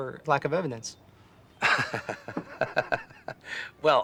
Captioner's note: laughs